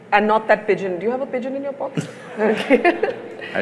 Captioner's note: laughs; Sadhguru laughs